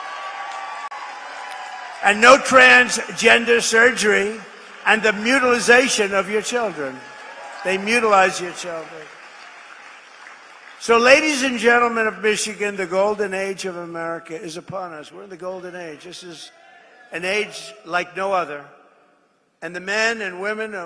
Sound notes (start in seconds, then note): 6.3 applause